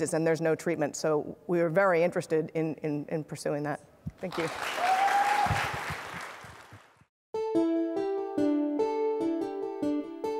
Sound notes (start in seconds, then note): 4.2 attendees applauding; 7.4 lively music